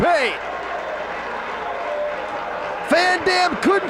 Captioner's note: spectators cheering and applauding